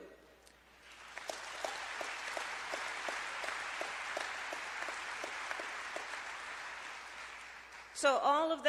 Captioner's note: applause